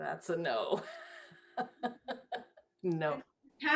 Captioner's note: laughing